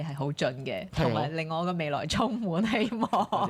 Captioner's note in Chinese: 眾人笑